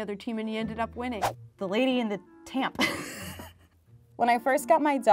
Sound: laughter

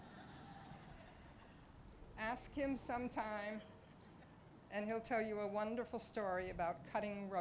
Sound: laughter

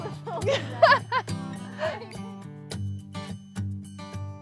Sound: woman laughs

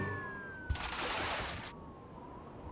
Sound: water splashing; wind whistling

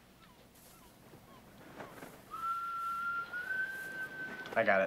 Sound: whistling

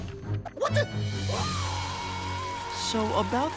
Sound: screaming

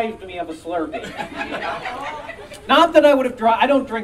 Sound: audience Laughing

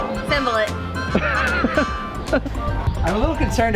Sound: laughing

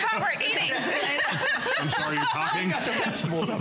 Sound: laughter

